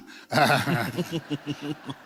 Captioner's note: laughter